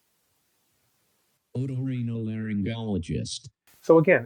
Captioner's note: AI speech